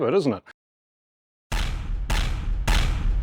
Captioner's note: gunshots